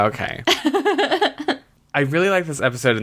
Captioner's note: laughs